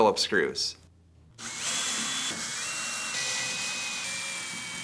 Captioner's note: screwdriver whirs